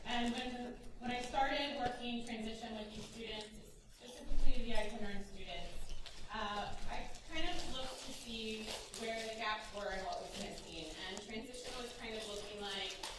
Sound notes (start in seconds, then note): none